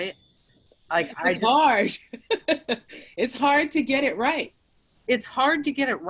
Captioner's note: laughs